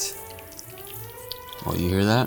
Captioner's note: oil sizzling